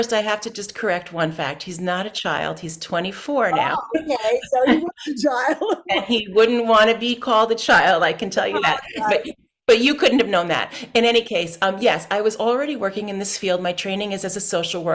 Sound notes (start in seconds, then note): 6.2 laughs